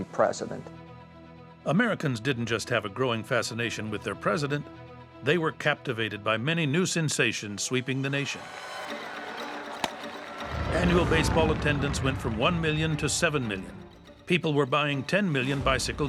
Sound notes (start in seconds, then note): 8.4 cheering